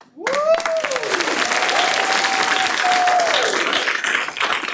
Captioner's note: clapping